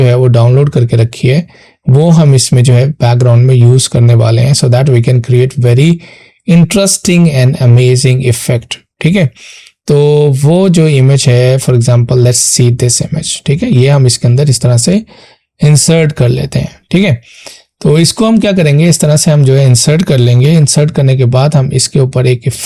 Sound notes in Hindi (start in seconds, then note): 17.1 नाक से की जाने वाली आवाज़